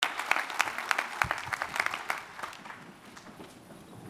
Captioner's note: attendees applauding